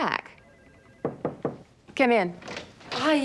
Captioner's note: Alison knocks